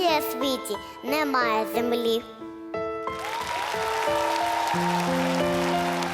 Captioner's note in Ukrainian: оплески